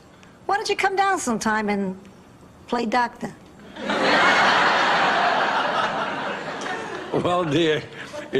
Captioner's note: laughs